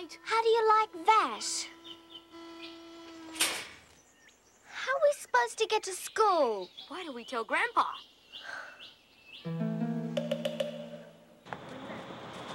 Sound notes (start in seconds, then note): 1.8 gate motor whirring; 3.4 gate slams shut; 8.9 sighs; 9.4 mysterious music